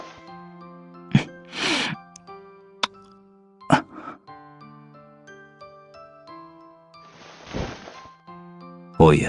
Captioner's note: kiss